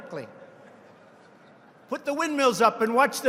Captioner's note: laughter